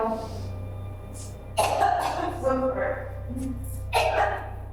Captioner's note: coughs; coughs